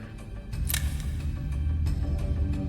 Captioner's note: discomforting rumble